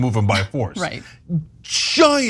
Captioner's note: laugh